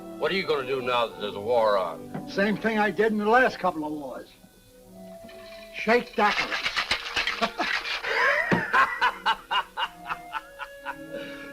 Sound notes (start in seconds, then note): 5.2 ice rattling; 7.3 Tim laughs; 7.3 man laughing